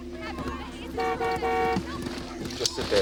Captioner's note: car honks